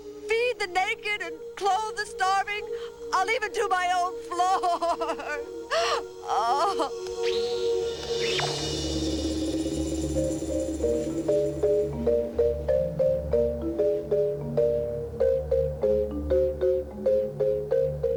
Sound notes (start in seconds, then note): 5.6 sobbing